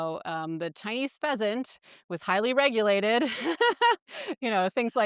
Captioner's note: chuckles